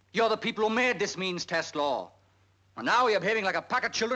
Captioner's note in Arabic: الناس يتحادثون